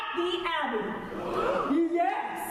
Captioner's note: gasps